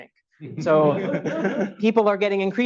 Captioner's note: audience laughs